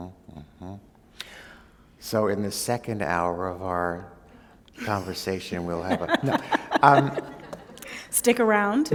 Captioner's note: laughter